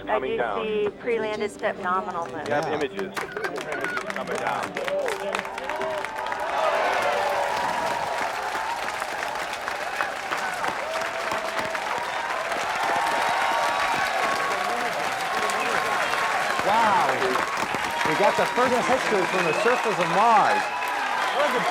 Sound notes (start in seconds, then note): 3.6 crowd cheering; 12.8 intensified crowd cheering